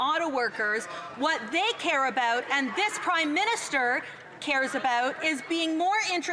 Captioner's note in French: voix de l'interprète